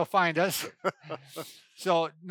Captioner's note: laughs